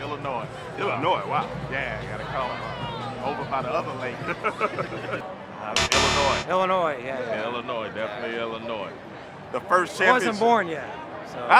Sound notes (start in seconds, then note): 5.8 X buzzes